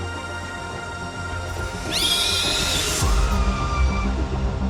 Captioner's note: screaming